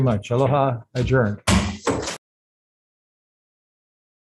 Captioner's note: gavel slams